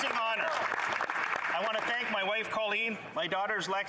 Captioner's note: some Applause